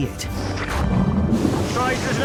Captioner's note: water bubbling